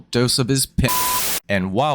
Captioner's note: static, beep